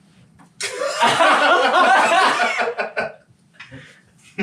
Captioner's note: all laughing